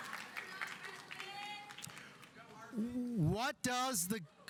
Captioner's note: audience applauding; audience cheering; student yelling